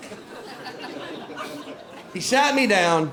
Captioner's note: light laughter